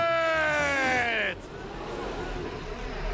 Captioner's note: audience gasps